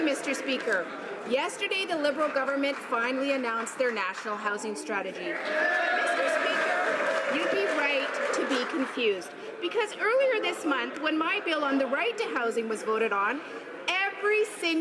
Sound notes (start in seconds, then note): 8.8 some Applause